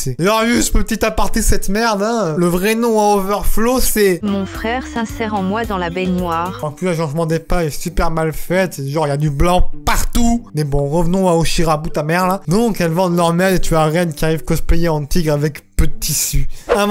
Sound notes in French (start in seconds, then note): 4.1 voix narrateur Microsoft